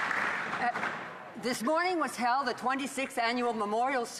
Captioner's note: some Applause; speaking French